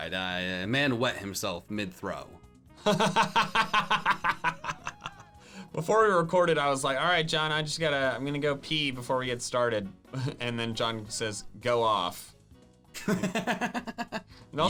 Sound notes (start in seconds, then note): 2.9 laughing; 13.0 laughing